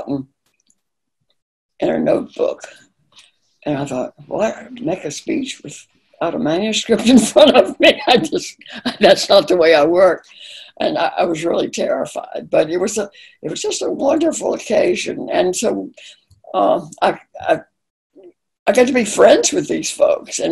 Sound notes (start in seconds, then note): 9.3 laughing